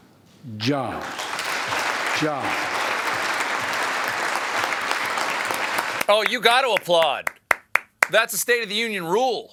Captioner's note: applause